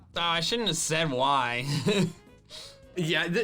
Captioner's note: laughs